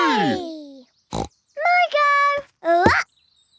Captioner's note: snorts